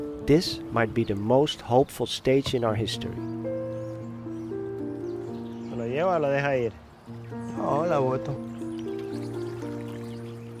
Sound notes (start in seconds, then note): 3.7 soft instrumental music; 5.6 speaking in foreign language